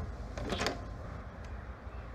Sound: door open

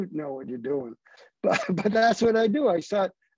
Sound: laughter

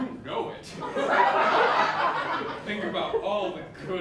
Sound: laughter

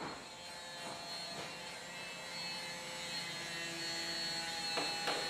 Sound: distant hammering and sawing; closer hammering

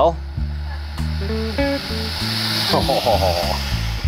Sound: Barney hissing

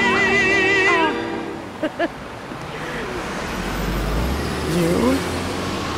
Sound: laughing

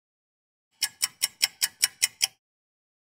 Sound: sound of a ticking clock

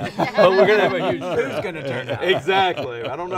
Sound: all laughing

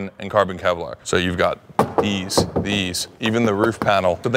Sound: car body clanking

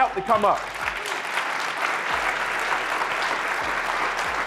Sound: audience claps

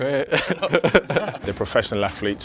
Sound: laughs

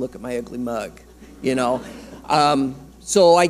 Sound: audience laughing

